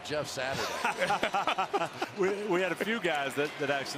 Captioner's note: laughing